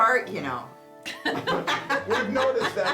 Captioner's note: laughing